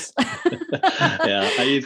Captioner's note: laughing